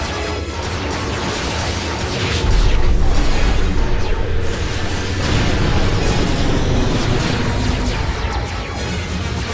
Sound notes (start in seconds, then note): 2.4 explosion